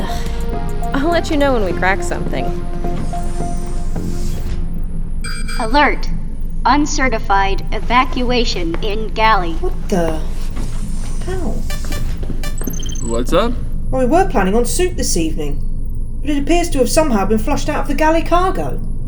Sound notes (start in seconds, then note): 4.6 alarm rings